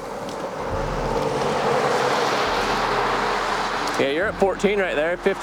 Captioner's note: traffic humming